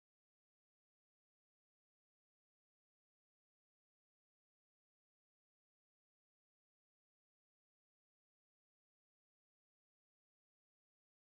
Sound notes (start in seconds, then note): none